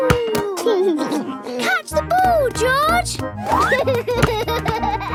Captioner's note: giggles